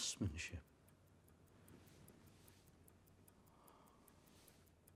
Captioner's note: watch ticking